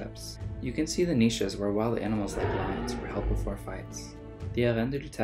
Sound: roar

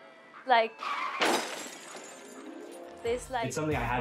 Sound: sound of brakes squealing, followed by noises from collision and breaking glass

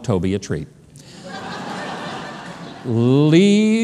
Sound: audience laughs

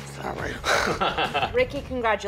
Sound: laughing

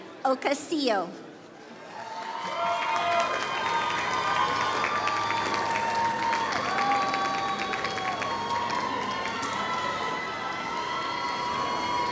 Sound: applause

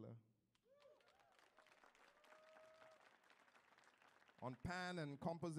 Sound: audience applauds

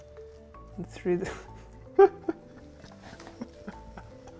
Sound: laughter

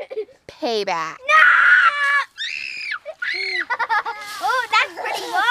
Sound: children scream

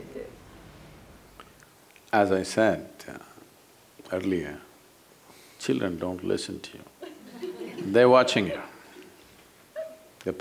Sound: laughter

